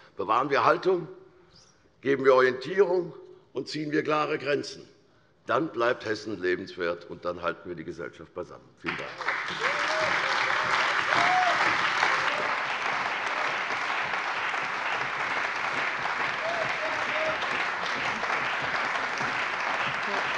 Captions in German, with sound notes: Bewahren wir Haltung, geben wir Orientierung, und ziehen wir klare Grenzen. Dann bleibt Hessen lebenswert, und dann halten wir die Gesellschaft beisammen. - Vielen Dank. [Lang anhaltender lebhafter Beifall bei der CDU und dem BÜNDNIS 90/DIE GRÜNEN]